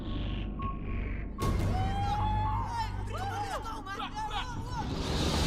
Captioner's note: cheers/shouts